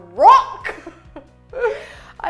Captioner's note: laughs